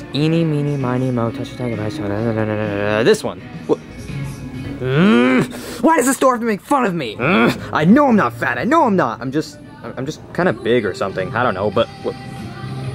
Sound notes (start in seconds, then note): 4.8 Junior growling; 7.4 Junior growling